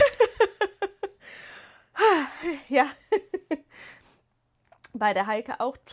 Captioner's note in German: gelächter